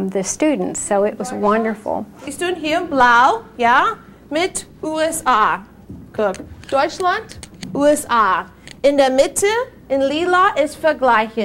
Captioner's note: teacher speaking German